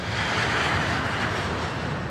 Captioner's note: jet engine